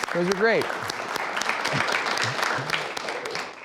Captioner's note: clapping